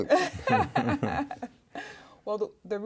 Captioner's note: laughing